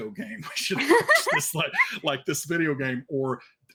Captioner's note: laughs